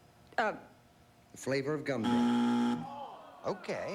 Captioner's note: buzzer